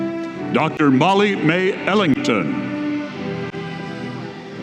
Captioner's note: none